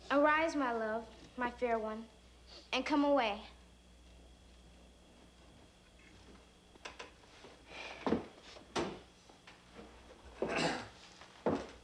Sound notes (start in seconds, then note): 7.8 Jay Bird sighing